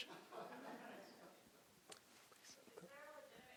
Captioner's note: audience laughing